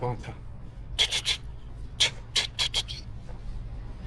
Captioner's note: spitting sounds; spitting to ward off bad luck